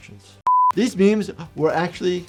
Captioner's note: screen beeps